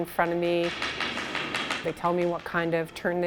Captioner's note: broom tapping on ice